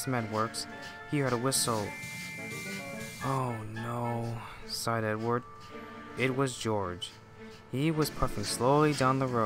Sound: sigh

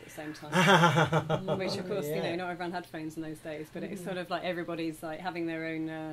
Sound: laughter

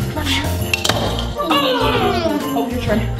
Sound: grunts

